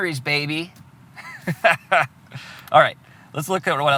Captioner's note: laughs